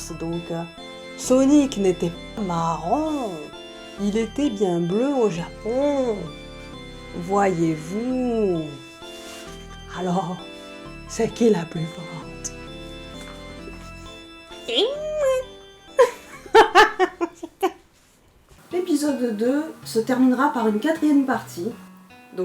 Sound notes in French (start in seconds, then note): 16.0 Rires